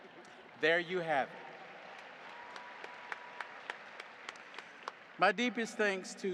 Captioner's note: audience applauding